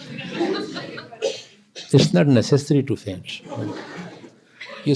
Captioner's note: laughter